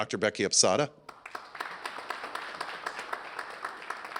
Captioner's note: applause